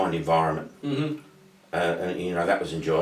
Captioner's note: grunts in agreement